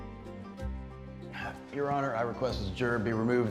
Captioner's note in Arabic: تنهدات